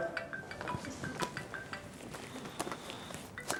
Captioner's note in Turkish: cep telefonu çalar